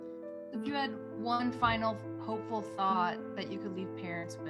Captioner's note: voiceover